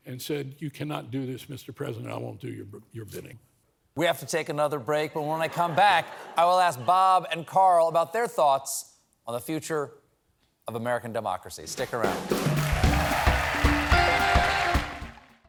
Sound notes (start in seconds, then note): 12.1 applause